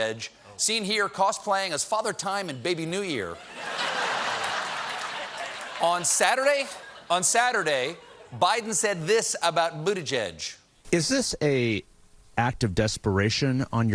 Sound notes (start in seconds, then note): 3.3 laughter